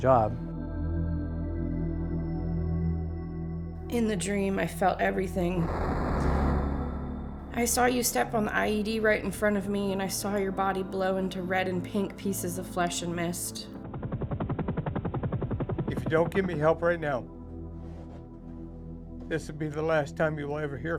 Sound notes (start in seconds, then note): 0.2 ominous music; 13.8 helicopters rumbling